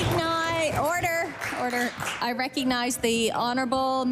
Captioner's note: cheering/Applause